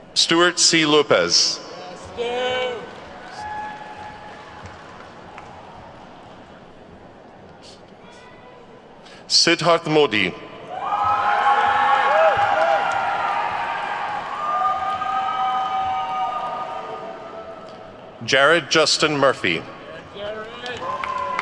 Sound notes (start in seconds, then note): 3.4 attendees claps; 10.7 attendees whooping and clapping